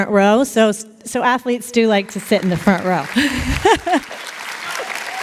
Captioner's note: laughter